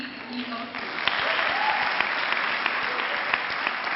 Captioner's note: clapping